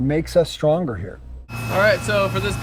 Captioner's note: machine whirring